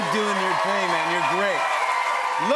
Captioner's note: cheers and applause